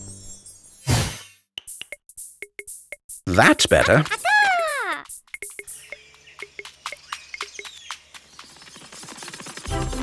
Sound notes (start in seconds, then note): 4.2 Nina speaks gibberish; 5.5 birds chirping